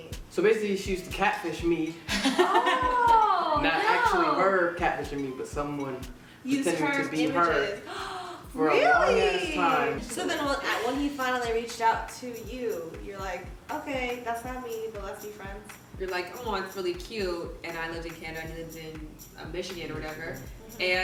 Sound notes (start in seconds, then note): 7.8 gasps